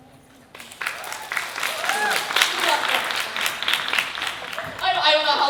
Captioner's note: applause